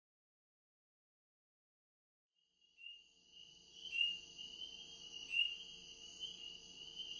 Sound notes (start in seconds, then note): 2.6 cricket noise